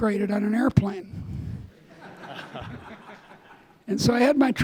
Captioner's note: audience laughing